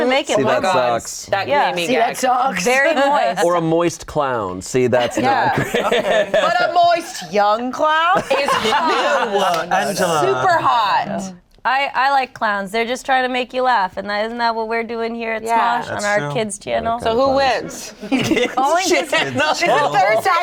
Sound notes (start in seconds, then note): 2.9 laughs; 8.1 group laughs; 17.9 laughing